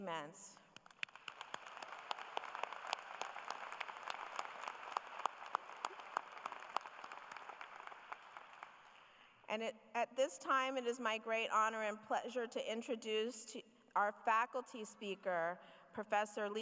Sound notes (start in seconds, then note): 9.5 applause